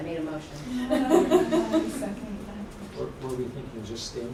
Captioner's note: laughter